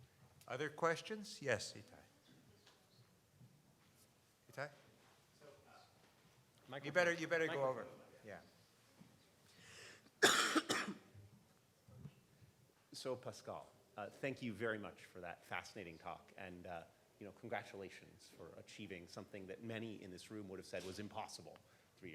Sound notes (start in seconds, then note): 10.2 coughs